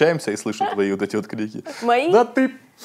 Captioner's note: laughs